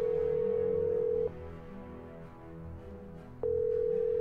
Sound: phone rings

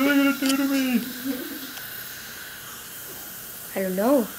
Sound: air whirring

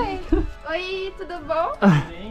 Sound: laughter

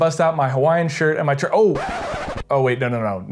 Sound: record scratches

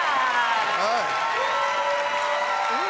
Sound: cheers and applause

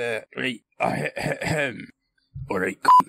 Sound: traditional Scottish Throat Clearing

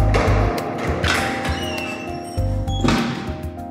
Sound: door opening, slamming shut

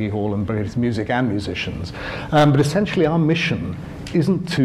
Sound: none

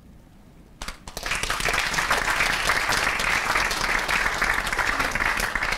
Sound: applause

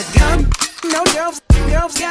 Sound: gun cocks

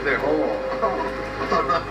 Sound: laughs

